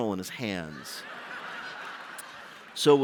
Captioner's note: laughter